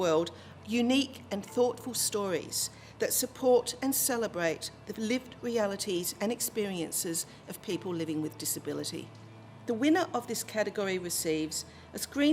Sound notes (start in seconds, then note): none